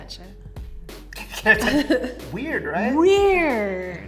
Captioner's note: laughs